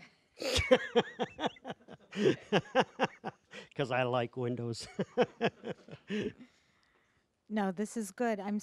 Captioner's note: laughing